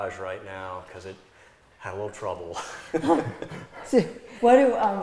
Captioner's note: laughs